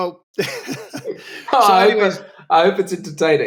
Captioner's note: laughter